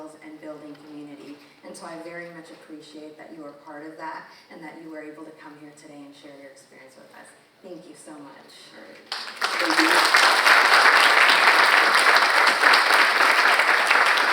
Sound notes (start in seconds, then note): 9.1 audience applauding